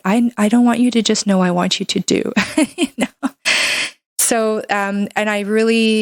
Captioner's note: laughs